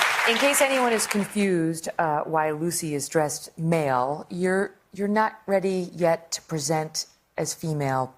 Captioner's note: applause